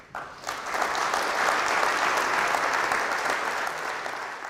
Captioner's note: audience applause